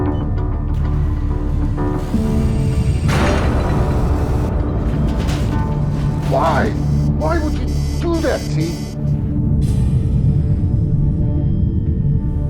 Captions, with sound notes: (dramatic music) (metal hulls collide) - Why? Why would you do that, T? (dramatic music)